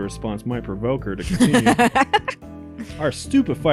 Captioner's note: cackles